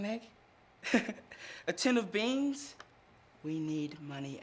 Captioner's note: laughs